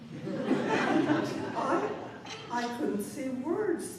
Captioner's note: laughter